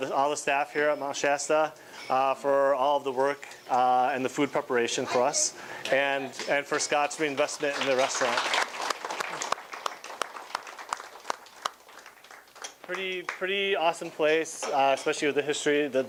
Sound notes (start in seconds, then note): 7.2 clapping